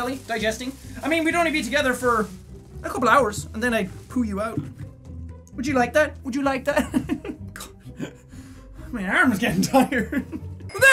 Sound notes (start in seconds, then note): 6.8 giggle